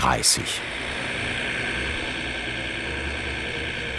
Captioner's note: engine noises